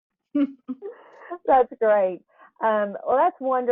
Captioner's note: laughs